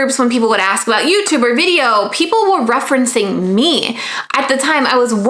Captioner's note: none